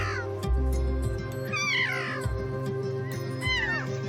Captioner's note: keas trilling